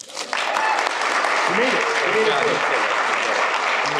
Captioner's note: applause